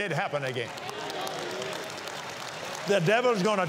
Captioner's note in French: applaudissements